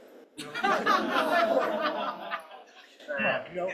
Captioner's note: laughter